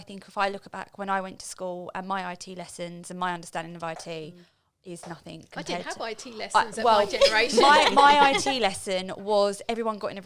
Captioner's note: laughing